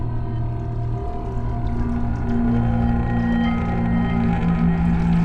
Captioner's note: running water